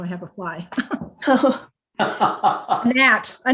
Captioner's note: both laughing